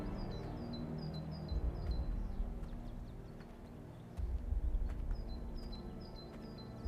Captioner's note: birds chirping; gentle tense music